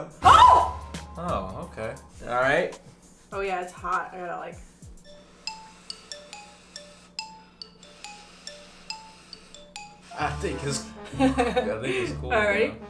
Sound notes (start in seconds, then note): 0.2 shrieks; 4.8 xylophone music; 5.1 blowing; 11.1 laughs